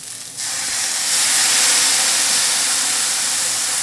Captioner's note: pan sizzling